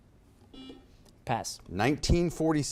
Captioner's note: buzzer beeps